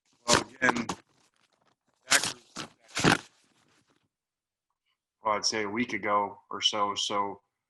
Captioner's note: audio drop